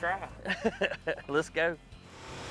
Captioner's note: laughs